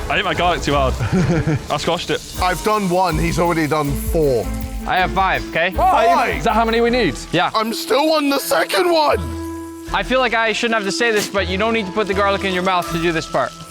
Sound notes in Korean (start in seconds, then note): 0.9 웃음